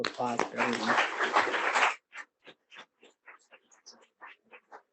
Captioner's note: audience applauding